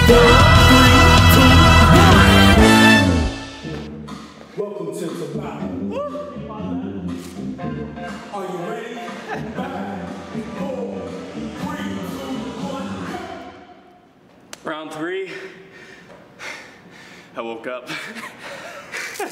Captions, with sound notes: Round three. I woke up. (laughter)